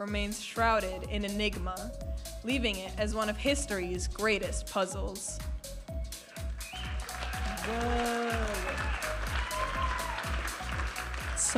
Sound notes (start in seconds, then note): 6.6 audience applauding and cheering